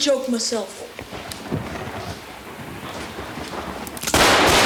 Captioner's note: thunder claps; gun fires rapidly